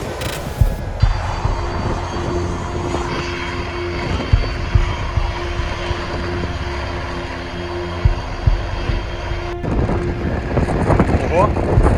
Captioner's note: aircraft engine sounds; music and strong wind